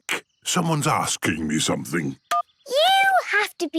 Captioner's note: phone beeps